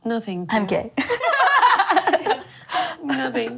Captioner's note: laughing